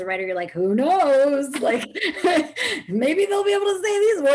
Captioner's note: chuckles